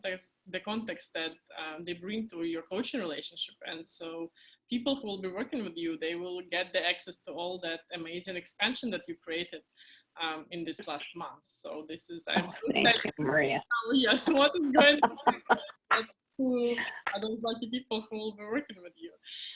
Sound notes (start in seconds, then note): 14.1 laughing